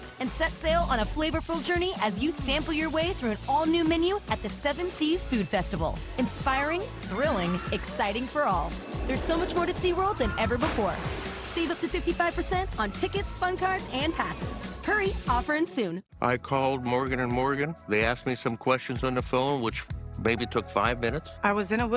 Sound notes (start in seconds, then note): 7.0 cheers and applause